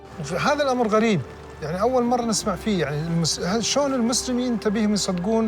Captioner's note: speaking foreign language